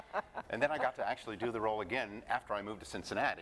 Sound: laughter

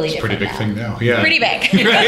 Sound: laughter

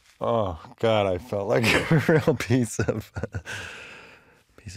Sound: laughs

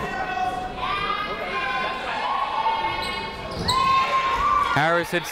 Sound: people shouting in the crowd

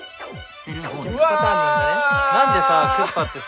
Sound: screaming loudly

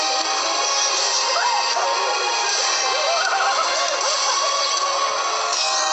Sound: laughs

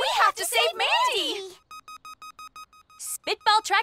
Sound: beeping

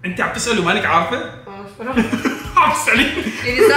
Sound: laughing

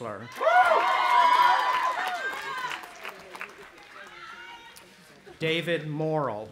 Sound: audience applauding and cheering

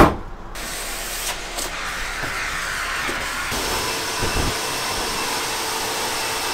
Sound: vacuum blowing

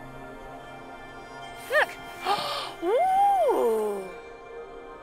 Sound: gasps

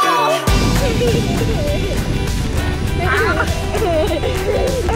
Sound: giggles

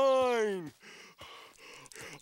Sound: panting

